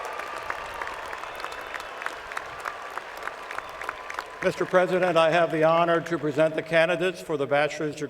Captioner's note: cheers and Applause